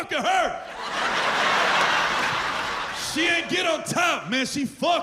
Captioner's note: laughter